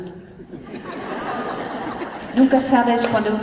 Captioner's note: laughter